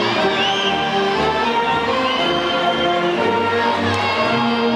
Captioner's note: audience whistling; band music drowns out audience